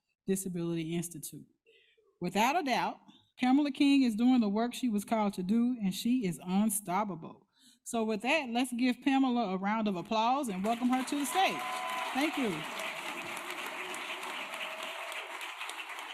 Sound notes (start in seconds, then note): 10.5 applause